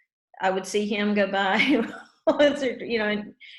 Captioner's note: laughs